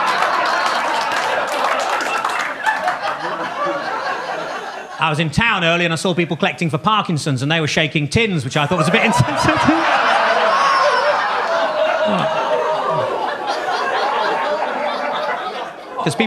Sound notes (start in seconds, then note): 11.6 audience laughing; 13.1 audience groaning